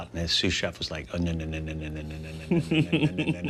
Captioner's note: chuckling